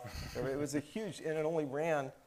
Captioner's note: faintly chuckles